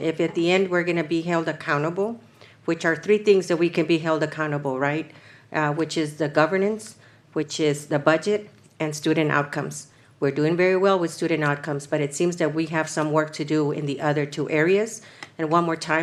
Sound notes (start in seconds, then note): none